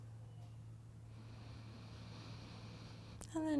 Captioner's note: inhaling